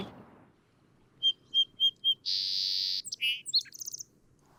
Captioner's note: bird singing